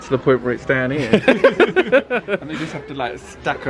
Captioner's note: laughs